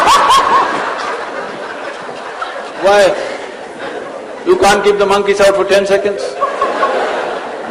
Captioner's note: laughter